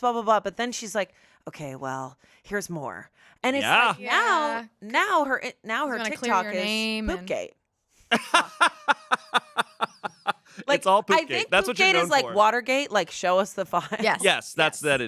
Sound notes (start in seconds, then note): 8.1 laughs